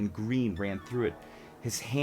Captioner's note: dreamy sound effect